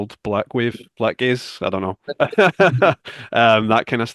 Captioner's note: laughs